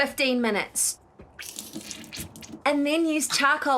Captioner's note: spitting